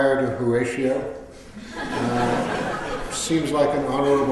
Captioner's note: laughter